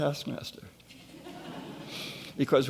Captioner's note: laughing